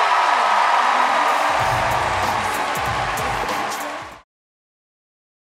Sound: audience cheers

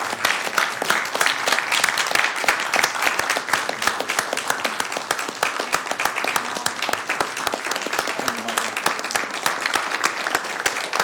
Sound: applause

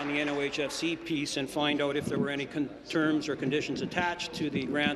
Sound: applause

